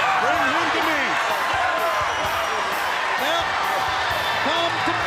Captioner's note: crowd chattering